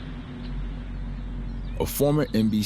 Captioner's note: birds chirp